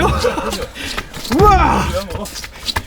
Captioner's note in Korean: 기합